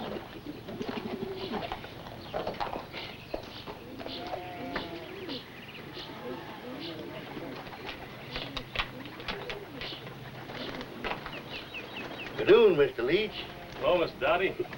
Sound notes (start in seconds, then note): none